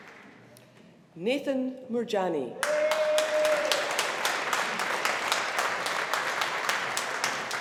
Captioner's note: audience applauding